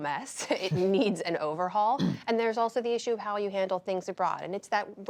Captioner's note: laughter